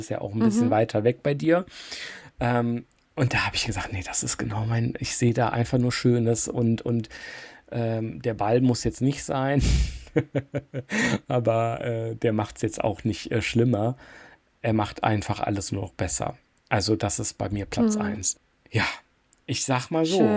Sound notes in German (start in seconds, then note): 9.6 gelächter